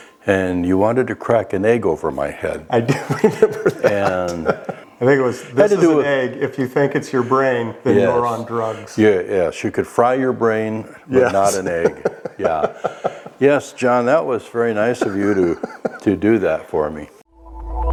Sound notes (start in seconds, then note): 2.8 laughs; 11.1 laughs